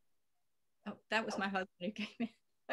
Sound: laugher

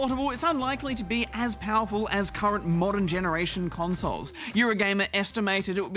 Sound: gasps

